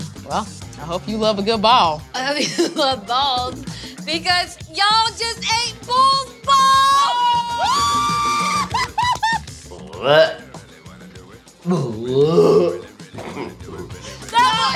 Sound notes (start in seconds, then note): 6.6 cheering; 9.9 gagging